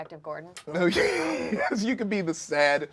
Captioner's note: laughs